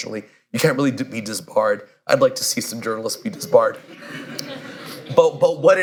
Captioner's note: laughter